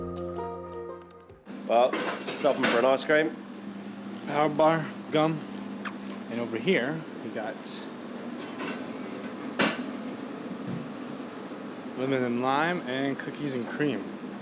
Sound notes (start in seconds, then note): none